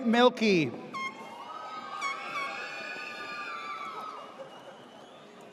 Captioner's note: air horn blares